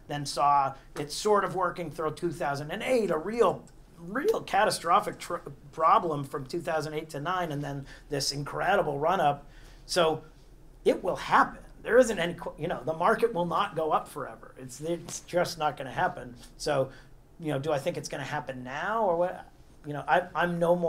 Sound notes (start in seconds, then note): none